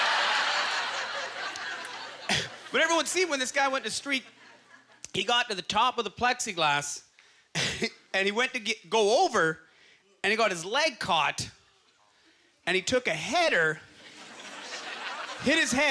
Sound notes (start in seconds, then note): 4.2 laughs